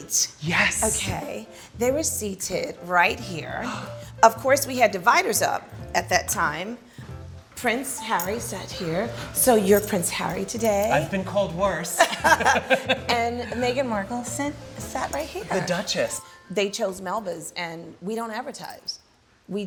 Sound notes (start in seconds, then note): 11.9 both laugh